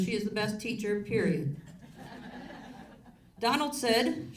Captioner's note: audience laughs